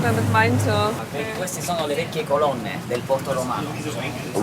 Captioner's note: speaks Spanish